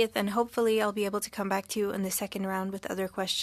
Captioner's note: speaking French